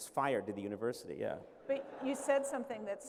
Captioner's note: laughter